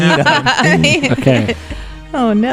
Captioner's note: laugh; singing